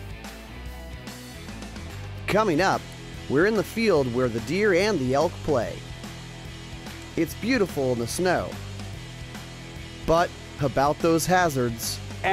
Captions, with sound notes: - (Voiceover) Coming up, we're in the field where the deer and the elk play. It's beautiful in the snow, but about those hazards.